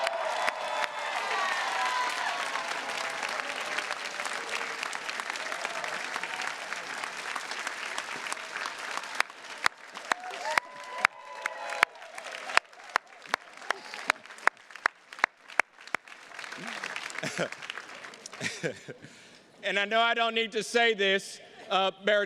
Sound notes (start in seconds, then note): 0.2 attendees cheers and claps; 18.3 chuckles